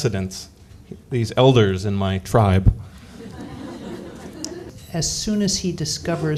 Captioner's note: laughter